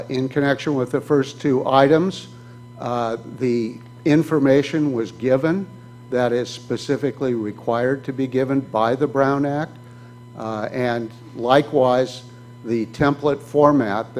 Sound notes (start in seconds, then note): none